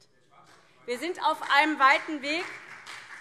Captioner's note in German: Beifall CDU und SPD - Zurufe BÜNDNIS 90/DIE GRÜNEN